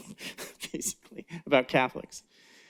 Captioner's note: laughs